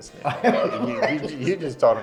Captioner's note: laughs